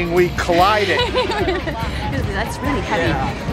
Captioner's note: laughter